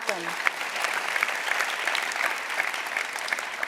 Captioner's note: applause